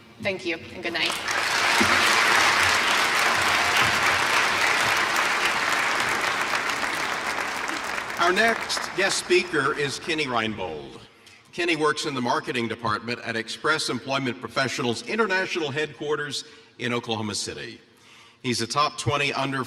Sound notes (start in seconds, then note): 7.8 applause